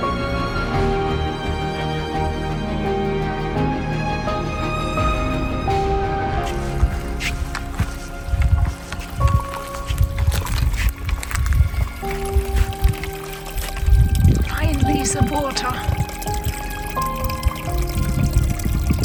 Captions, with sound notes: [Walking and sounds of running water] Finally, some water!